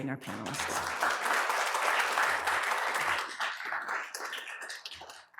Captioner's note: applause